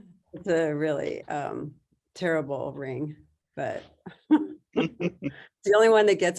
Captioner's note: chuckles